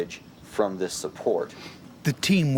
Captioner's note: voiceover